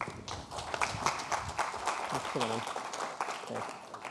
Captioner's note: audience applauding